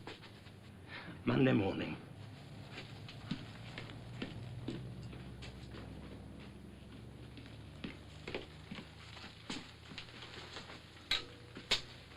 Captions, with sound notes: - Monday morning! (indignant footsteps) (indignant footsteps)